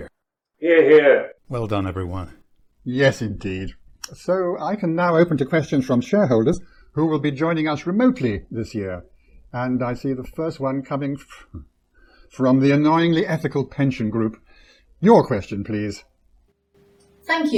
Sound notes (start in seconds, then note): 12.3 sigh